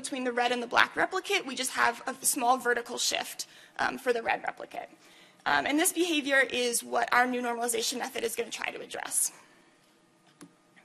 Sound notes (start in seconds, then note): none